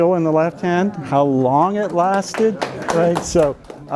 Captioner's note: students clapping